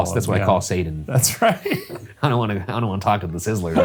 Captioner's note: laughing